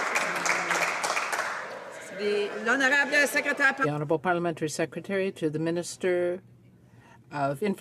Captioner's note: some Applause